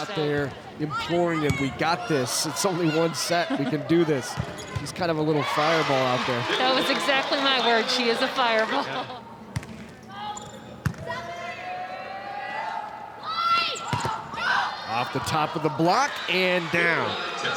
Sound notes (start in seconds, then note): 10.8 ball thumping; 11.3 players shouting indistinctly; 13.9 ball thumping